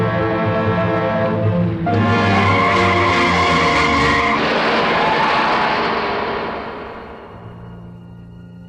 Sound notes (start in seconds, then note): 2.2 tires screeching; 4.2 metal crashing